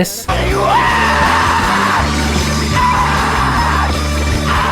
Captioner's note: singer screaming